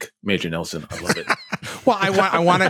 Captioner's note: laughter